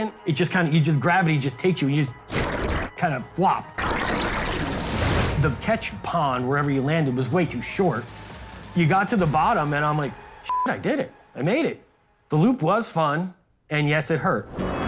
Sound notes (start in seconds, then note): 10.5 beep